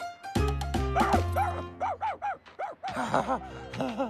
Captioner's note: barking; embarrassed Laughing